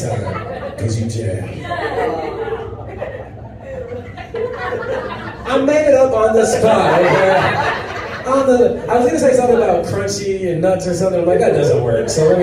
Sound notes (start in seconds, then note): 1.9 audience groans